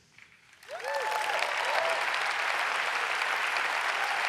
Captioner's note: audience applauds